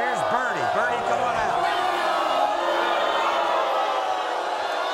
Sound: audience boos

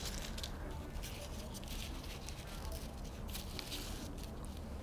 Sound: leaves rustling

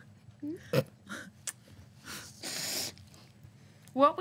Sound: snickering

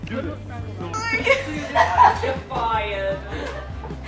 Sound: all laughing

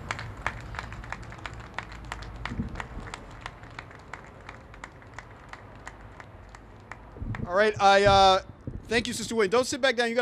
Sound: applause

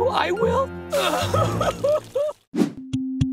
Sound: crying

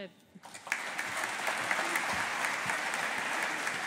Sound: audience applauding

